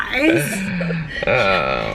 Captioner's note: chuckles